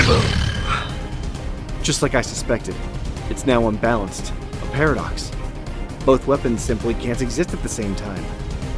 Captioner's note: exhale